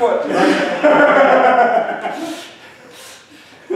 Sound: laughter

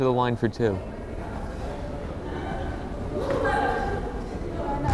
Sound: crowd chattering

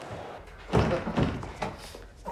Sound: door opening; moaning

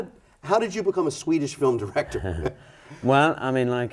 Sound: laughs

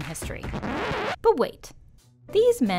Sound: record scratching

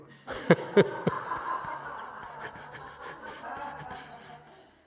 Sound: laughs, audience laughs

